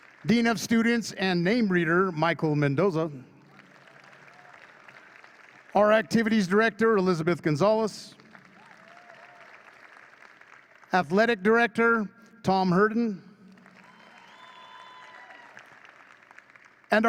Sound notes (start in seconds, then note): 0.0 audience cheers and claps; 3.4 audience claps; 8.0 audience claps; 13.4 audience claps and cheers